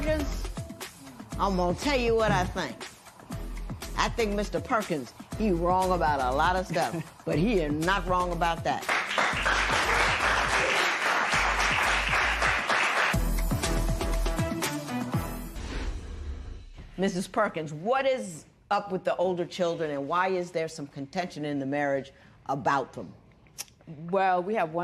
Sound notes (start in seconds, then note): 8.8 applause